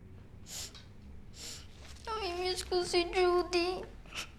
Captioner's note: sniffling